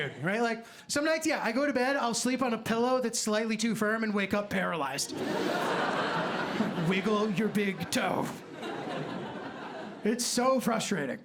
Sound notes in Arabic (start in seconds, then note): 5.0 ضحك